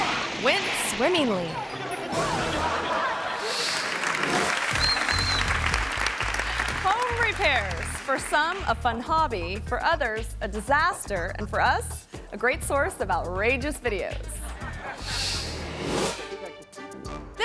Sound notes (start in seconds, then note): 0.0 bridge crashes; 0.0 guests yell; 1.0 guests chattering; 1.6 audience laughing; 3.6 audience cheering; 3.6 graphic whooshes; 14.4 audience laughing; 15.1 graphic whooshes; 15.8 playful music